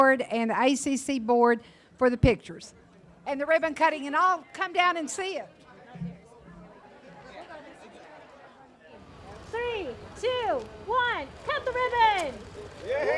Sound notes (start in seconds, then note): 6.6 indistinct audience chattering; 12.9 audience applauding and cheering